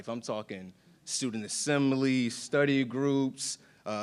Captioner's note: none